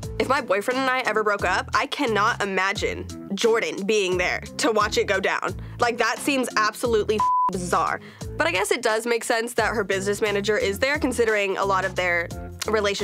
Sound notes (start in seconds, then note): 7.2 beep